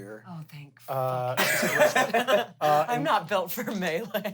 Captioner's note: everyone laughs